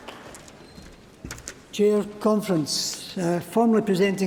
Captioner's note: applause